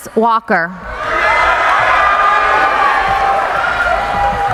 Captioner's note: cheering